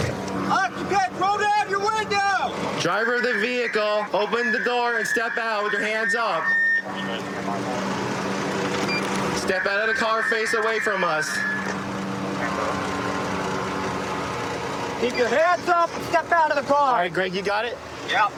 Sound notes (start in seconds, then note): 2.8 using loudspeaker